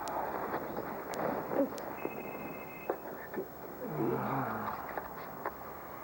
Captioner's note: telephone rings